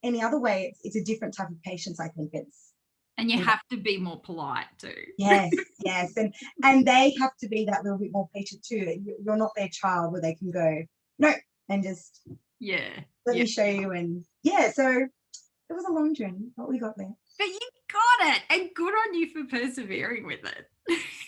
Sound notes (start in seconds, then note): 4.9 laughs; 21.0 laughing